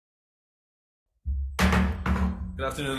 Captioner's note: gavel thudding